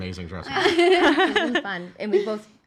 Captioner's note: laughing